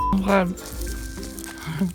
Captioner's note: laughing